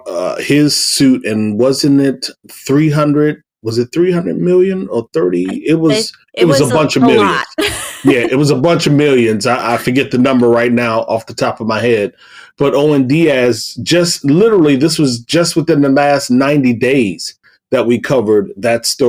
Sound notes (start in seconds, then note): 7.6 chuckle